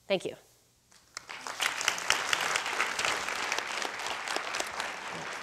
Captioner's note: crowd applauding